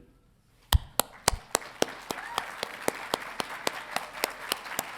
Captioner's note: crowd applauding